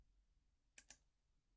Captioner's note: click